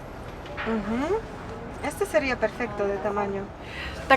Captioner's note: in Spanish